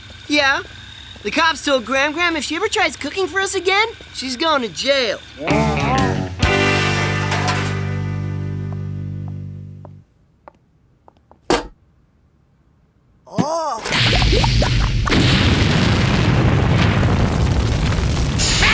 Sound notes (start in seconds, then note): 6.7 clanging; 13.8 bubbling; 17.6 sizzling